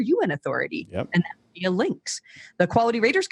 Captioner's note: mic cuts out